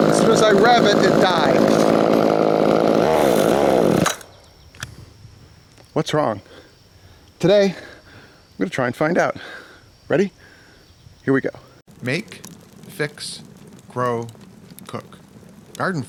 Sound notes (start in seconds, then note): 3.2 chainsaw revving